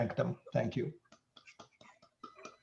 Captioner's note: clapping hands